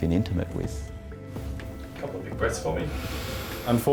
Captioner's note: inhales